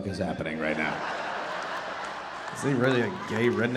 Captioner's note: audience laughing